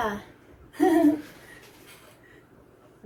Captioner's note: laughs